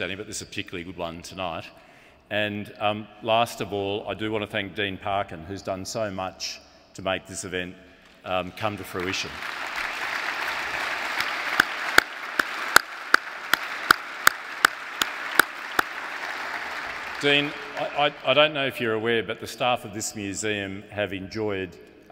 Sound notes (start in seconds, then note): 9.4 audience applauds; 11.6 applauds